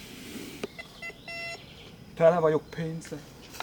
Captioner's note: beeping near my pocket